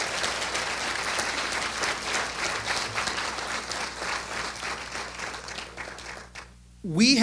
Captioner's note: applause